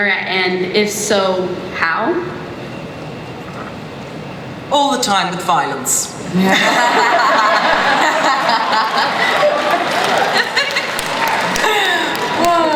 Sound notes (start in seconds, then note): 6.4 laughter; 9.0 audience cheering and applause